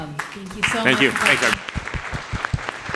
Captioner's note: applause